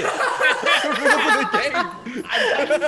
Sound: laugh

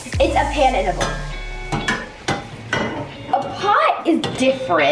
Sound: pot gently clanging

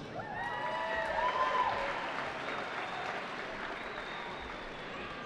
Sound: cheering

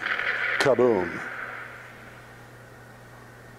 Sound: silence

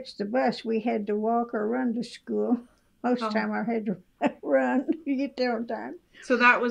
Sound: laughs

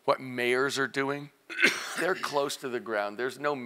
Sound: cough

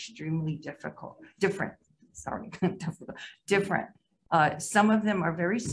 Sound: chuckles

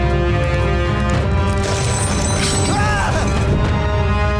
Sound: clanking, screaming

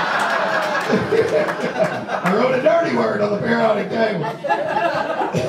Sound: audience laughs; laughs; audience laughs

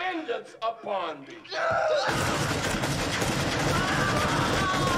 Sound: groans loudly; gunshots; screams

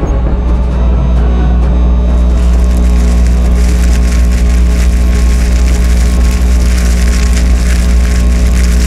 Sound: machine buzzing and ice melting

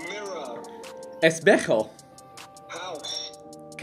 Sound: foreign language

